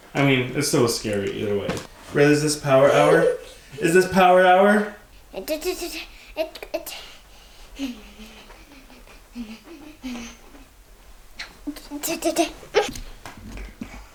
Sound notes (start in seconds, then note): 2.8 giggling; 5.6 chattering and humming